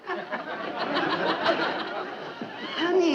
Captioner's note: audience laughing